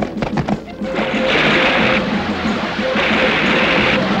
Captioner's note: liquid splashing; horses clattering